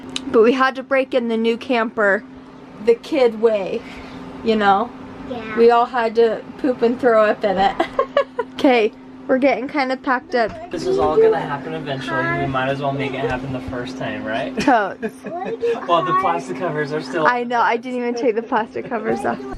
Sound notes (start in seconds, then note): 7.7 laughing